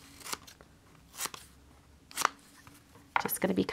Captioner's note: scissors cutting